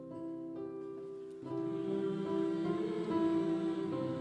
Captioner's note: group hums